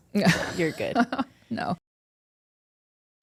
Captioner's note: laughs